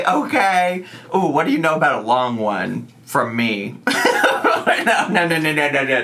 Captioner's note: laughs